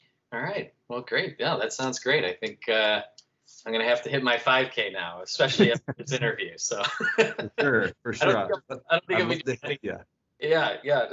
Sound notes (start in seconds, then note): 6.7 laughter